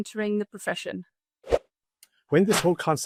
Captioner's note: graphic whooshes